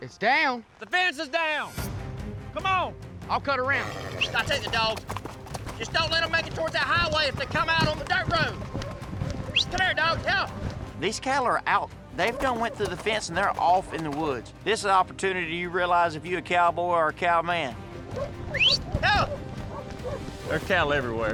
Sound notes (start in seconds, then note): 9.5 booger whistles; 18.4 whistles